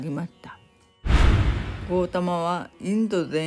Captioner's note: scene switching sound